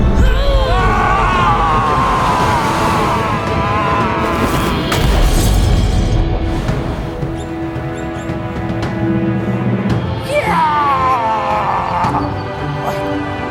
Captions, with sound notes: - (GROANS) - (YELLS) (GLASS SMASHES) - Yeah!